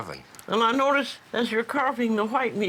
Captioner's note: voiceover